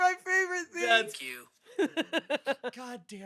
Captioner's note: laughs